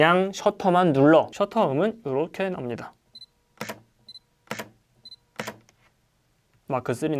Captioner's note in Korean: a7c 셔터 소리